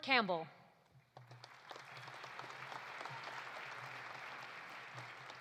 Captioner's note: audience applauding